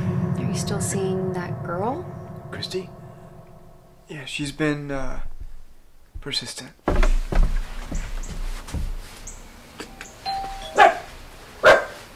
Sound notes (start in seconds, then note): 9.8 doorbell; 11.6 dog barks